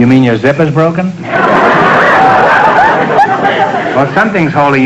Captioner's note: audience laughter